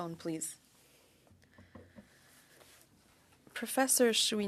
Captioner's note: speaking French